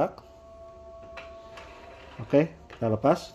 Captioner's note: printer machine sound